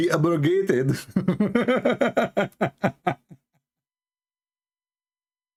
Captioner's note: Ketawa